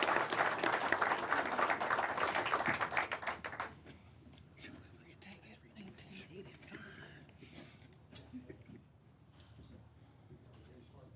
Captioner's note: applause